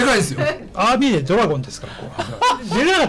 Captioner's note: laughs